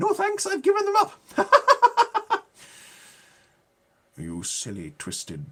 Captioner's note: laughing